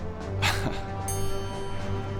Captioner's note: smug ding!